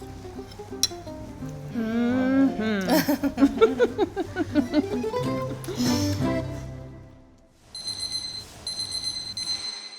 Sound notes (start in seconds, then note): 2.4 both laugh